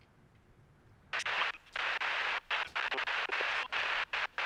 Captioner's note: radio staticing